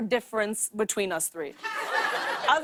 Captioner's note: laughter